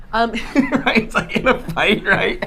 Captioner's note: laughing